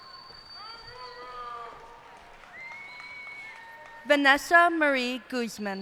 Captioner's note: cheers and applause